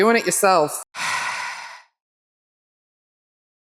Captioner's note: sigh